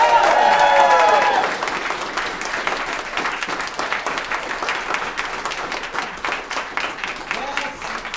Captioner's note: applause